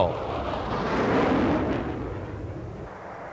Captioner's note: engines roar